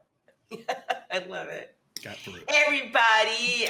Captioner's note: laughs